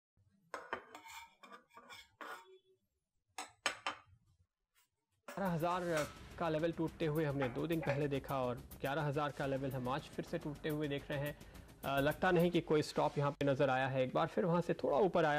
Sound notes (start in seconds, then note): 5.4 news on TV